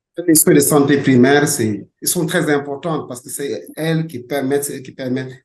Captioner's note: speaking French